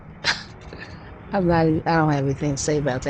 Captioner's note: laughs